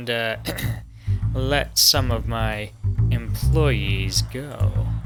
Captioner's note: clears throat